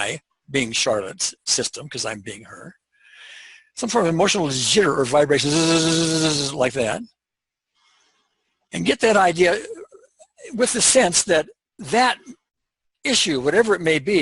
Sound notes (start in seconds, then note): 7.2 buzz